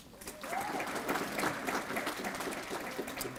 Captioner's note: applause